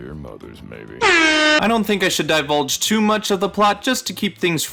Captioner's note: airhorn.mp3